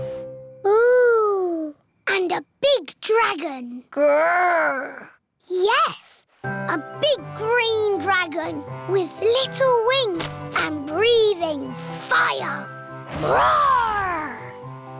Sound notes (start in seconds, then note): none